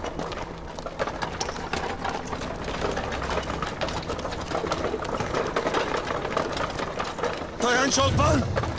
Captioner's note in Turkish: Kağnı Sesleri